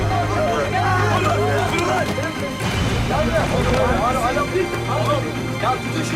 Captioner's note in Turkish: Bağrışma sesleri; Darp sesleri